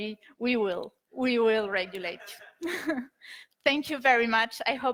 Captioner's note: laughs